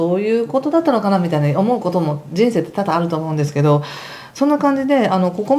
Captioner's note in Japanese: 息をのむ音